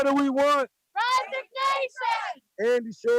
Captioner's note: crowd